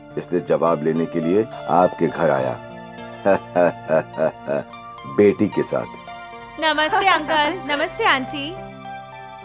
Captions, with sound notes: So, I've come here for an answer. [Chuckles] I've brought my daughter along. Hello, uncle. Hello, aunty.